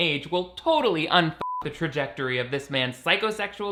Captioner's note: beep